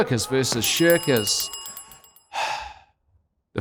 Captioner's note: bell dings